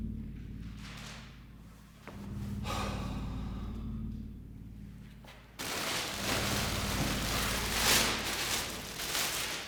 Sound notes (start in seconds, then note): 2.6 Danny sighs; 5.6 bag rustling